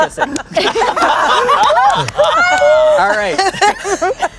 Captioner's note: everyone laughs